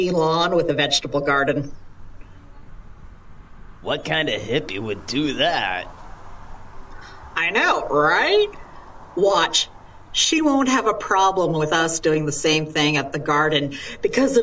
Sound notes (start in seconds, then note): 2.5 sarcastic